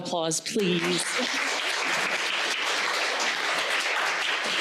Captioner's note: crowd applauding